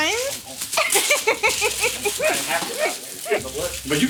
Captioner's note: laughing